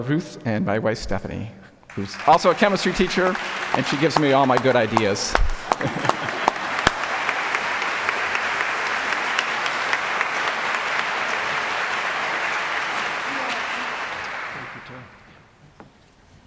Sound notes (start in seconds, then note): 5.6 audience laughing; 7.4 applause